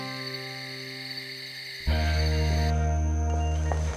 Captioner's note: crickets chirping